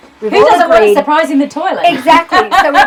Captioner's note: laughs